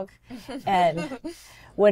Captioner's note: chuckles